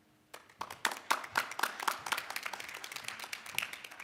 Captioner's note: applause